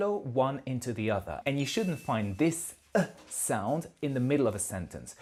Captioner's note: exhale